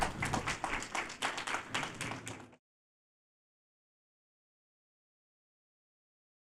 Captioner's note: applause